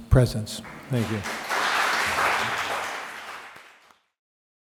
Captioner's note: crowd clapping